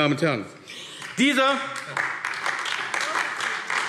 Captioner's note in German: Beifall AfD